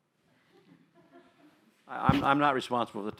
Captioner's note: laughter